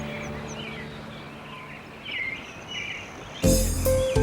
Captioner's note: birds chirping